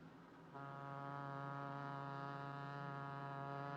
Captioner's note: ship's horn